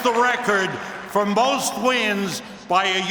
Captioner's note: cheers and applause